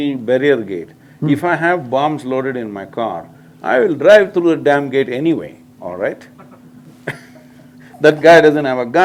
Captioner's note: laughs